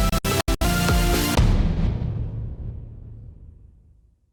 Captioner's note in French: Boum